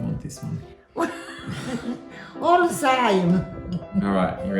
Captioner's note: laughs